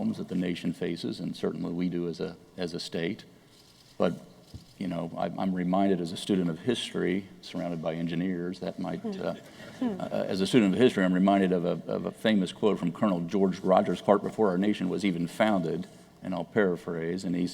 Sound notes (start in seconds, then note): 9.7 laughter